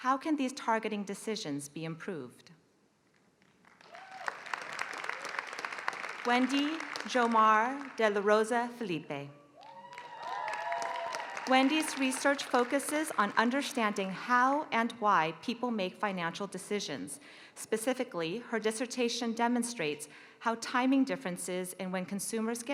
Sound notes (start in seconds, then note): 3.4 applause; 9.6 applause